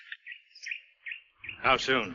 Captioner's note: bird tweets